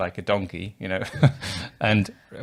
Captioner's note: laughing